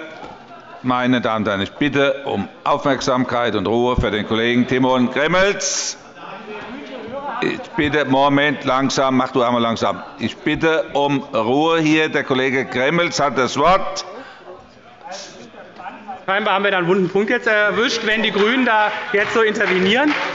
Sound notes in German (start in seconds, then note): 5.6 Fortgesetzte Zurufe von dem BÜNDNIS 90/DIE GRÜNEN